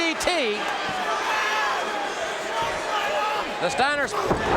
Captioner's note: audience cheering